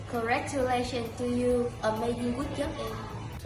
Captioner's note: speaking in a foreign language